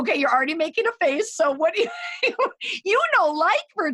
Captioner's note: laughs